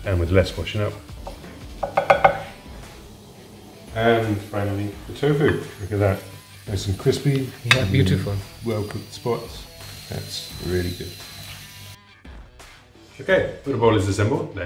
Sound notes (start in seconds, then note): 1.8 spoon taps bowl